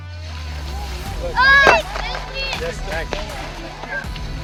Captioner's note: applause